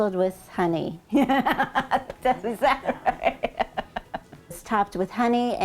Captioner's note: laughing